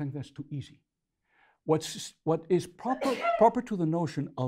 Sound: sneezeing

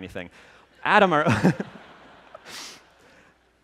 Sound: laughter

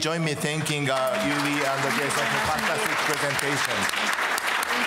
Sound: applause

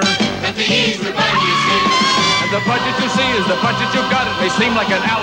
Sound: woman screaming

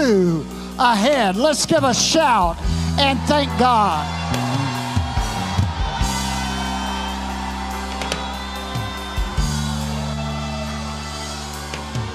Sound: congregation cheering

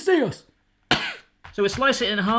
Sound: coughing

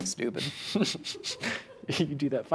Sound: laughter from off screen

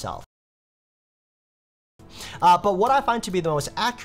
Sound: sound silences

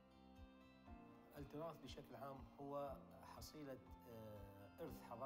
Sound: foreign language

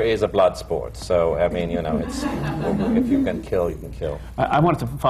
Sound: laughter

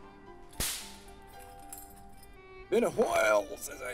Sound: snap

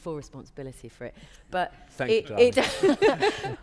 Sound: laughter

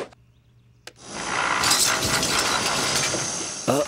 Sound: dishes breaking

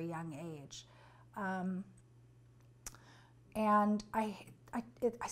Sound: pauses for 3 seconds

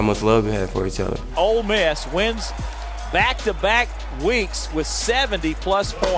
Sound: voiceover

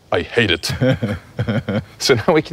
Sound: laughs

